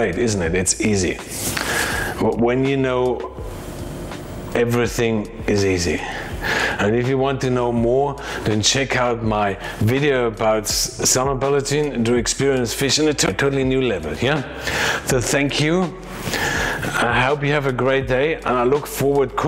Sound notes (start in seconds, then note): 10.6 speaks in foreign language